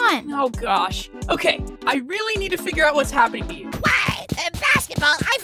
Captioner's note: none